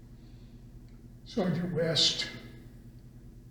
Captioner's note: laughs